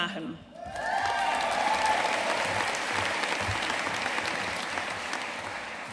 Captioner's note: audience cheering and applauding